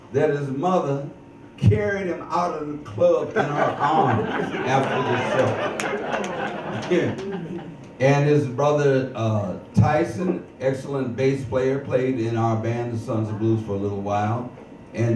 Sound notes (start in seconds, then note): 5.9 chuckles; 6.7 audience laughs